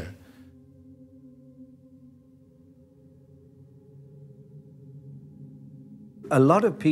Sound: spherical sound

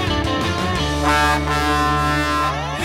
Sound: honking

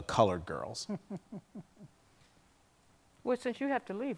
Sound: laughs

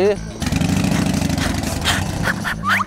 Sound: vrooming for action

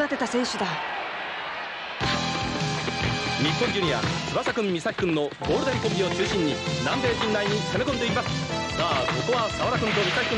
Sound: applause

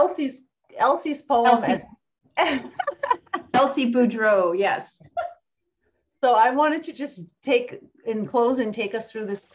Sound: laughs

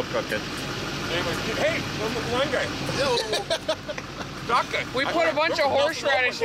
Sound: laughing

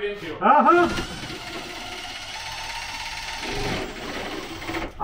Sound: drill whirring

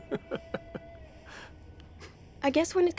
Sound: laughs

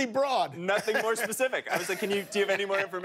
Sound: laughter

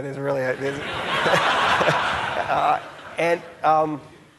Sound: audience laughing

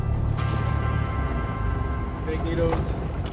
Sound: wheels thump down

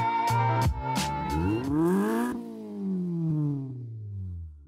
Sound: engine revs

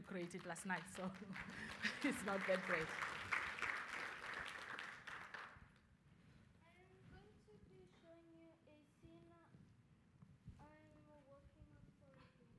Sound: applause

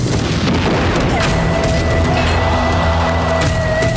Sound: explodes

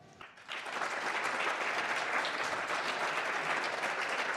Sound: applause

